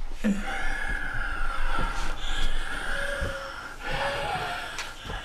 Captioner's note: heavy Breathing